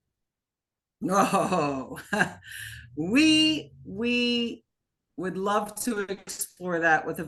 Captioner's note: laughing